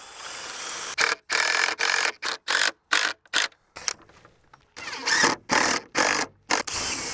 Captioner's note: drill clicking